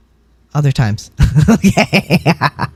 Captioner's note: laugh